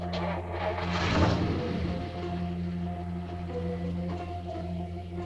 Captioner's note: car engine rumbling